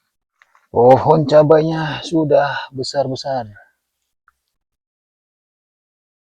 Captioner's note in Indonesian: menghela napas; terkesiap